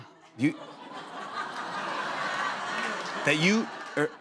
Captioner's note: laughter